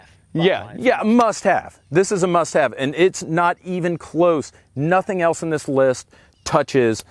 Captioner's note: none